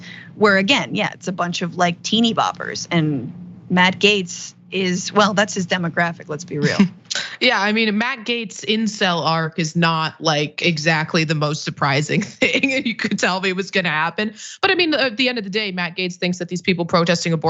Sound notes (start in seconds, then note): 11.6 laugh